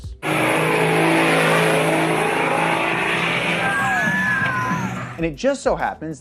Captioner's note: engine revving; cheering